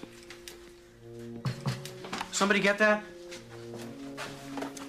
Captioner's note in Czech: Klepání na dveře